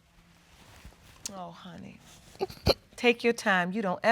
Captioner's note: whimpers